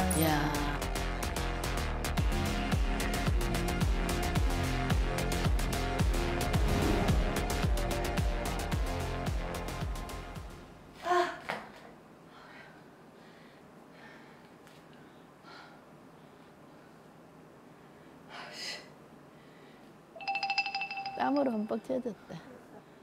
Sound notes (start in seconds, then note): 11.2 groaning